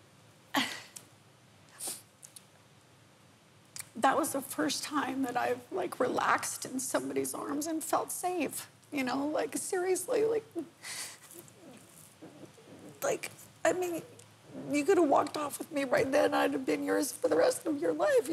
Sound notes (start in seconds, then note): 0.6 sighs; 1.8 sniffles